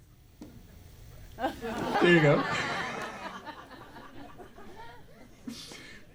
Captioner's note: audience laughter